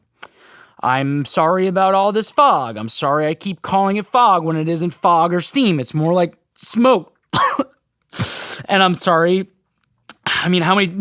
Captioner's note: coughs